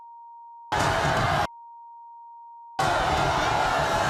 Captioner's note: audience booing